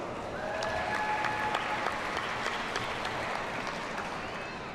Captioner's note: audience cheers and applauds